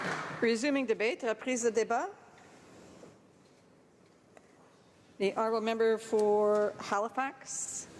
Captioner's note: applause